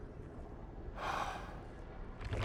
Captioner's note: sigh